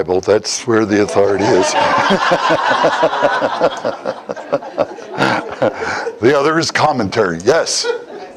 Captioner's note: Смех